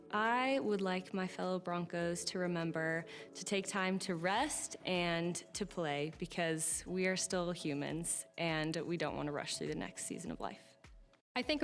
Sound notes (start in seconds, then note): none